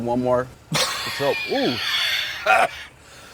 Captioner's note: hacking cough